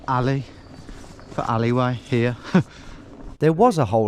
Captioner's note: chuckles